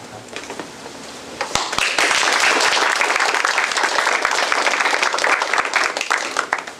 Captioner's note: applause